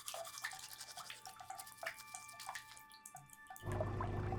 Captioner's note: brushing teeth